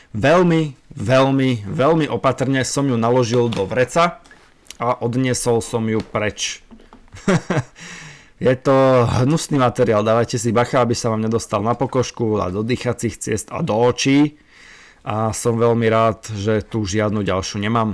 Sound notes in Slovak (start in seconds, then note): 7.1 smiech